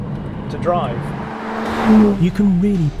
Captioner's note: car zooming